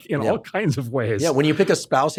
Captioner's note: laughs